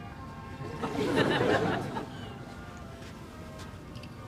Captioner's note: audience laughs